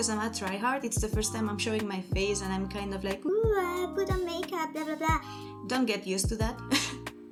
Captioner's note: laughs